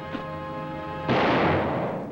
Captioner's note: gunshot